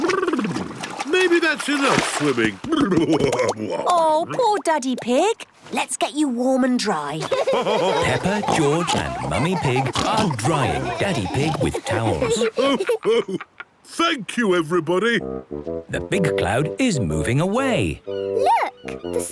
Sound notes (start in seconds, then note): 3.1 exclaiming; 7.2 laughter